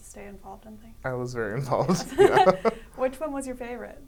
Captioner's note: laughs